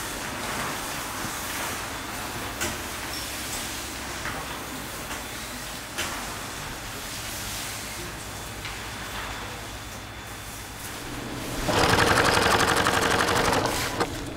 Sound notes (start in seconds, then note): 11.0 rattling of a sewing machine